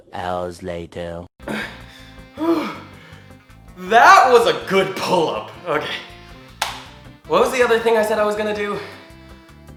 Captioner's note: heavy Breathing